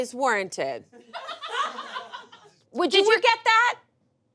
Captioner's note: audience laughs